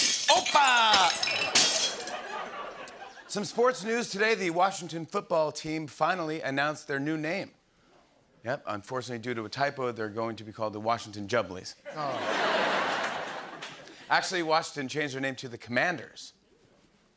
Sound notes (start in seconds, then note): 1.9 laughter; 11.8 laughter